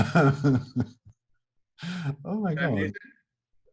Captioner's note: chuckling